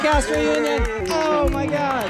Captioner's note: panelists applauding